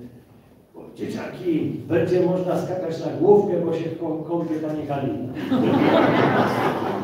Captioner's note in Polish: Śmiech z sali